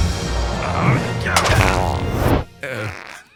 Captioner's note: high five clap; fart